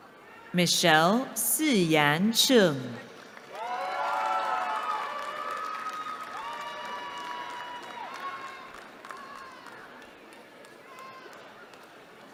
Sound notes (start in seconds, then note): 3.4 cheering